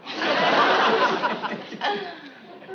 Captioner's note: laughs